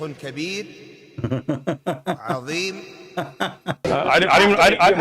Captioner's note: Ketawa